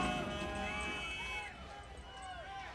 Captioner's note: crowd chatter